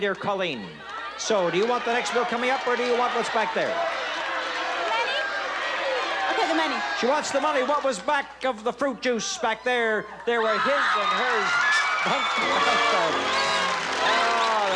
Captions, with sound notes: my dear Colleen, so do you want that next bill coming up or do you want what's back there? [audience cheering] -Money? Okay, the money. -She wants the money. What was back of the fruit juice back there? There are his and hers bathtubs.